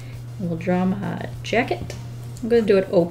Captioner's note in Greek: none